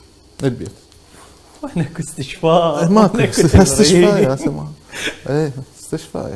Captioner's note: laughs